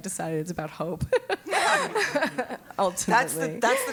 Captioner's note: laugh